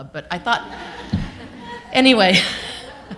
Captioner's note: laughter